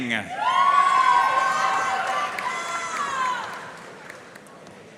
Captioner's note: audience cheering and applauding